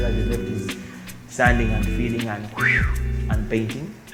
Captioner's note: whooshing noise